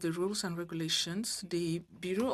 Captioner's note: speaking French